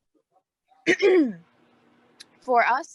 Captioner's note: clears throat